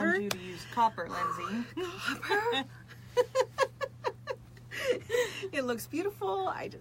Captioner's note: both laugh